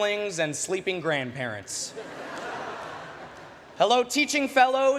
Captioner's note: laughter